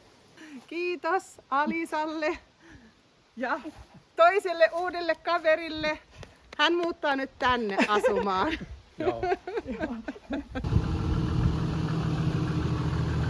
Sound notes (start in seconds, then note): 9.0 laughs